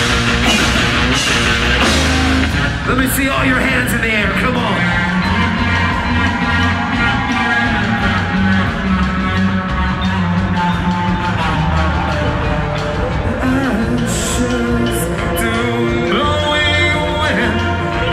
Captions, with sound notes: Lemme see all your hands in the air, come on. [crowd cheers] Ashes to blowing wind,